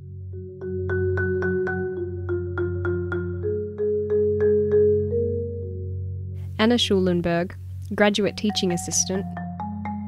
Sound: voiceover

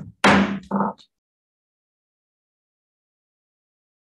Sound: gavel slams

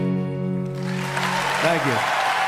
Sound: applause

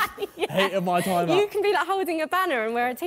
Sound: laughing

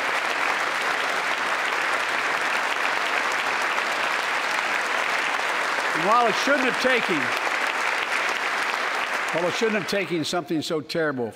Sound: applause

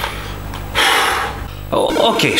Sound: exhalation

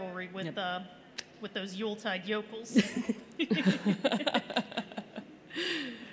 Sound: laughter

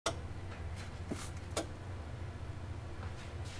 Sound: static buzzes

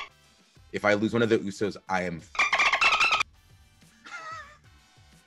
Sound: laugh

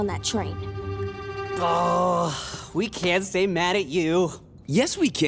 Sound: sighing

